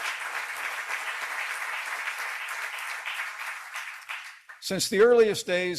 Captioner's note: applause